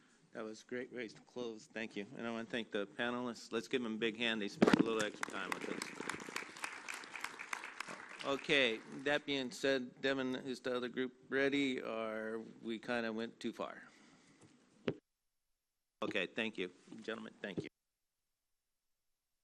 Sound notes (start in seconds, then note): 8.2 applause